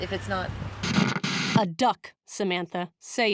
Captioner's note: Static